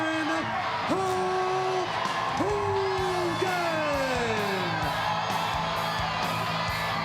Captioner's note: crowd cheering